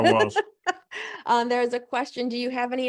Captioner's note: laugh